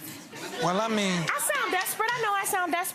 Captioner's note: gallery laughs